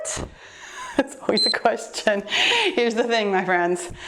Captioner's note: timer beeps